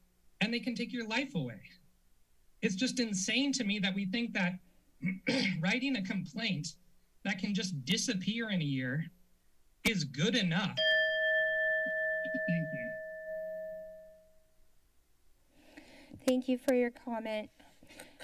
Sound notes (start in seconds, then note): 5.0 clears throat; 10.7 alarm ding; 14.1 silence